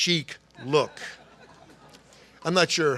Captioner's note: laughter